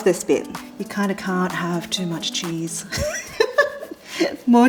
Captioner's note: chuckles